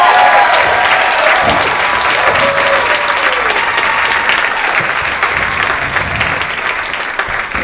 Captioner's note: thunderous applause